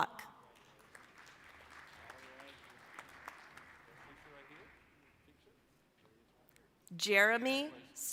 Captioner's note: applause